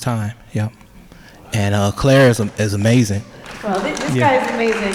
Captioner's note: applause